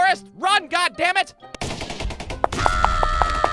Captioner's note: machine gun fire, explosions